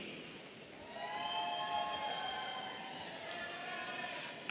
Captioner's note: audience cheering